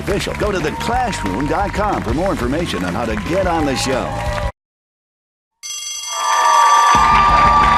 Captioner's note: bell rings; cheers and applause